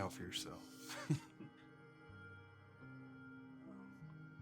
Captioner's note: chuckles